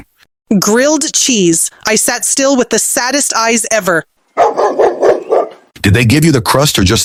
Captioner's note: dog bark